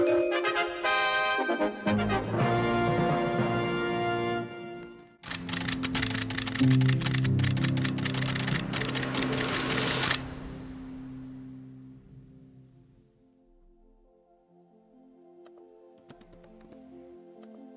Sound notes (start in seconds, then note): 0.0 triumphant music; 5.2 shutter clicking